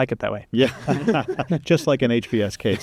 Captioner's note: chuckling